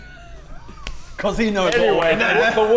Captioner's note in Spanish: Sonidos de puñetazos